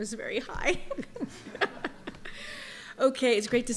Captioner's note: laughter